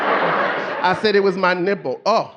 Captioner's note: audience laughing